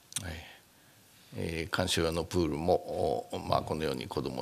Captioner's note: speaking japanese